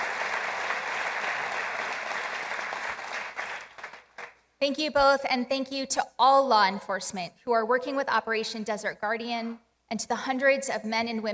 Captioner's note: applause